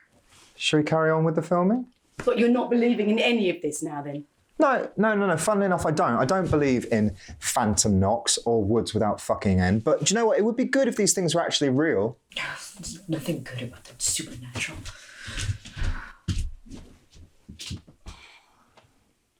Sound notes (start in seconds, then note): none